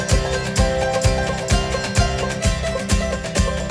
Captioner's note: clap